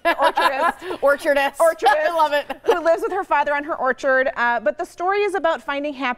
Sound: laughter

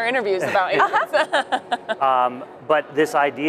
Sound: laughs

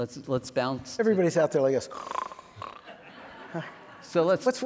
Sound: snores; audience laughing

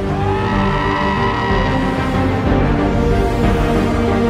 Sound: person screaming

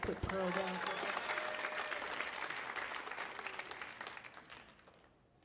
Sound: audience clapping

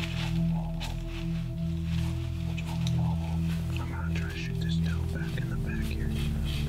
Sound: whispering

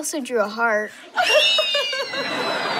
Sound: squealing and giggling

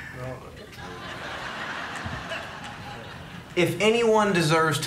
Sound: congregation laughing

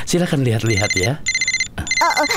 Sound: phone ringing

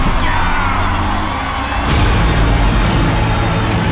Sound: crowd cheering

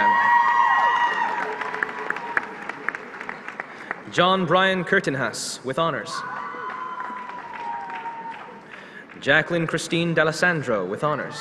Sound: applause

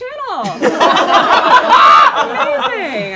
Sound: laughing

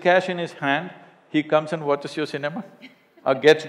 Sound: laughter

